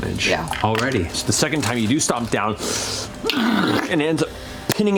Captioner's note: grunts